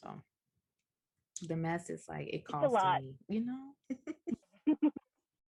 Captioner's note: laughter